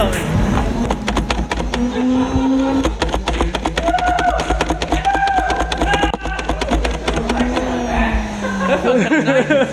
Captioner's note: Laughing, yelling, and nerf gun noises; chuckles